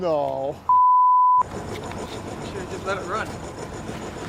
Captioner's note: beeping